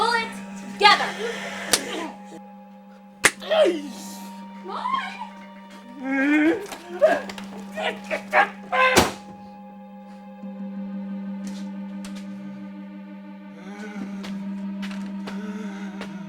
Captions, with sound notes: Pull it together! (slaps thwack) Come on!